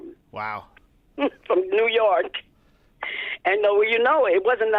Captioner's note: laughter